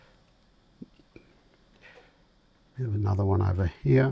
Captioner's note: silence